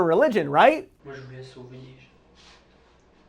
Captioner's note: & his interrogator, in french